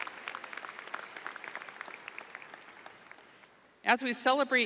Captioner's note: audience applauding